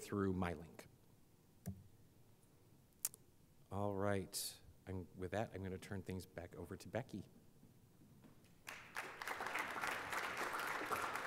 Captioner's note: applause